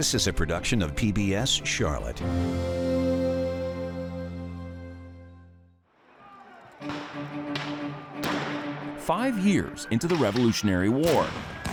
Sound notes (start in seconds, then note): 6.8 suspenseful music; 8.2 guns blasting